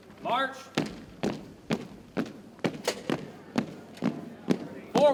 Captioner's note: boots thumping